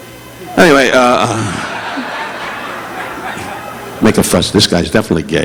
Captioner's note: audience laughing